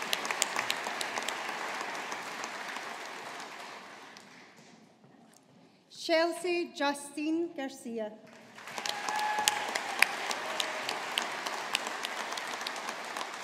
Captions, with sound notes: Shelcy Justine Garcia. (AUDIENCE APPLAUDING)